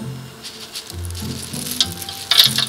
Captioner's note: pasta dropping